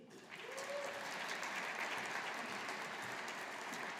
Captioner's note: audience applauding